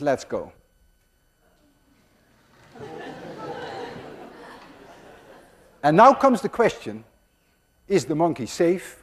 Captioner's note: class laughs